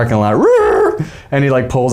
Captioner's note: making screeching noises